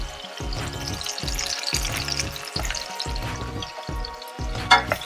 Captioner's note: onion and garlic sizzling; chicken sizzling